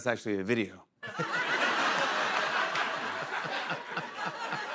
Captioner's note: laughter